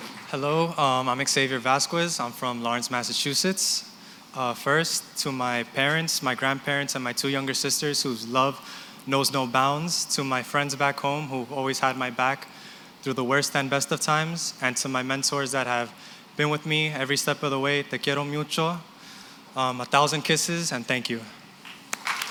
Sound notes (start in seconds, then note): 17.9 non-english; 21.6 applause